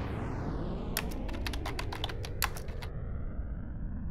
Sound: typing

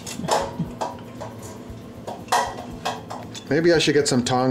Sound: metal clanking

